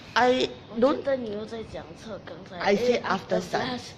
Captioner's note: speaking in foreign language